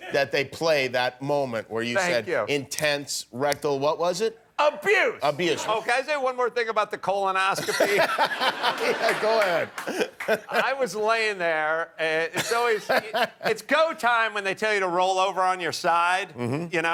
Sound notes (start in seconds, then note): 7.6 laughter